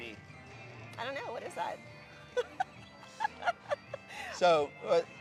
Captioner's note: chuckles